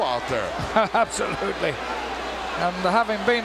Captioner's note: chuckles